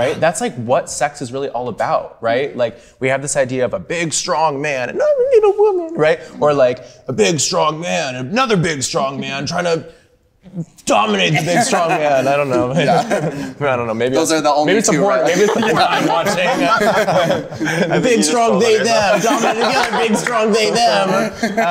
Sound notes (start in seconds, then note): 14.7 group laughing